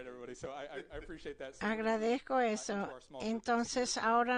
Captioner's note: laughter